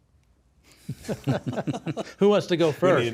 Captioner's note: both laugh